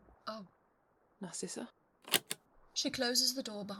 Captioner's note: locks click open